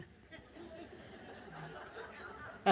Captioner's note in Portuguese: risos da plateia